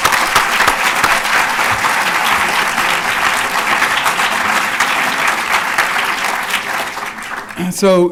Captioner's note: applause